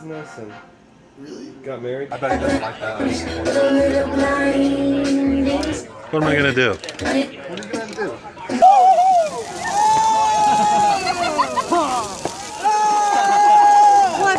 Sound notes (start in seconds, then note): 4.3 upbeat music playing; 8.3 yells